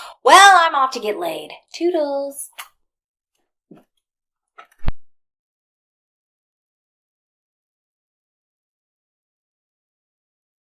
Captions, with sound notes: Well, I'm off to get laid. Toodles. [silence]